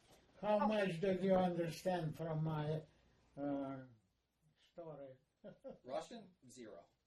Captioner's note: laughing